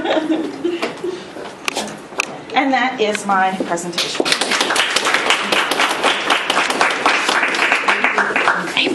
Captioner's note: applause